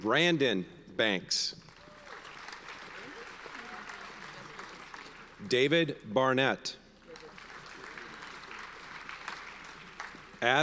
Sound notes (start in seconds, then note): 1.6 audience applauds; 7.0 audience applauds